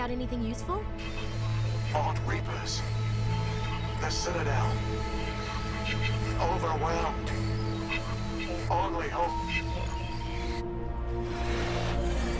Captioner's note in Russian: помехи